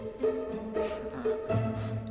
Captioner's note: laughs